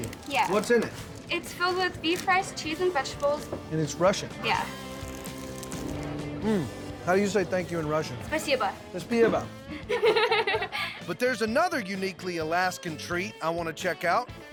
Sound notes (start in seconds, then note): 8.4 speaking russian; 9.1 repeats in russian; 9.7 laughing